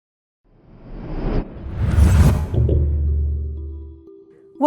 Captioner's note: low whooshing; calm music